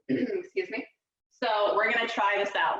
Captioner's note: clears throat